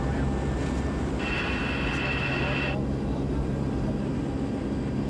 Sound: camera whirring

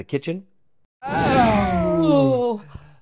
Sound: whoosh sound

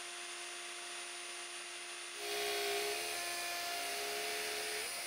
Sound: machine whirring

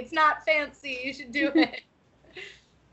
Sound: laughing

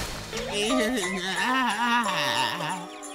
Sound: groaning

